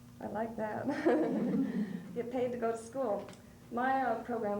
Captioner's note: laughs